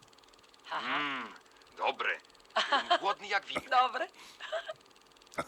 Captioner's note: laughing